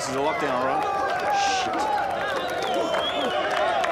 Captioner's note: prisoners call out menacingly; prisoners cheer, whistle and whoop